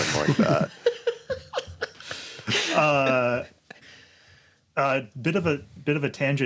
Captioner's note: laughs